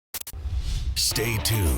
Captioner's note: swishing; voiceover